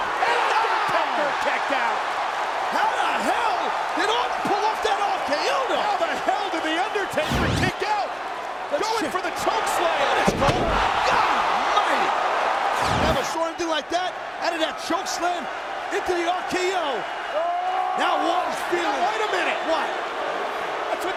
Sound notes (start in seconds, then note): 2.0 crowd cheering; 17.7 Randy screaming